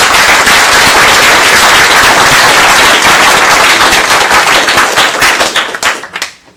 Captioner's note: applause